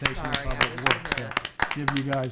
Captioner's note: clapping